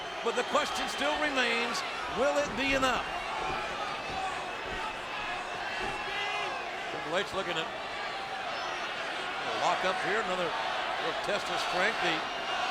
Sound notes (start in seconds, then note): 3.4 applause